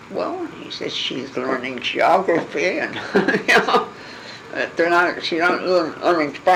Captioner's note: laugh